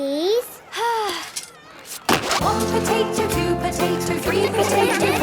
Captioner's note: Belinda sighing; laughter